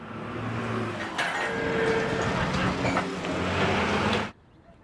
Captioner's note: trucks clanging